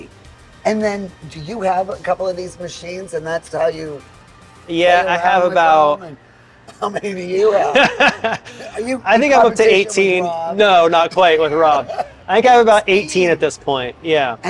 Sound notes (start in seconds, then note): 6.8 laughs